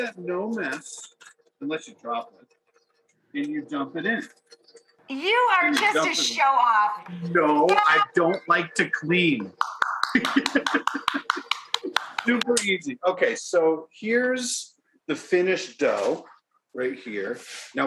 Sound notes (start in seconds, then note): 9.4 Rachael clapping; 10.1 Duff laughing